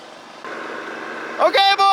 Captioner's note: engines running